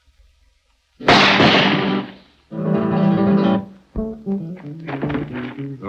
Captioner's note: gun shots